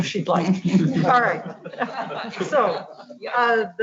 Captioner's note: all laughing